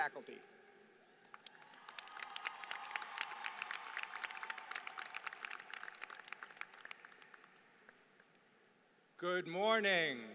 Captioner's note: applause